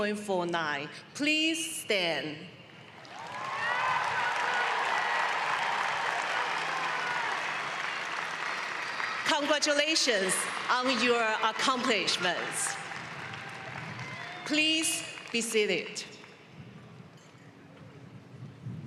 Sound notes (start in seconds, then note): 6.0 cheering and applause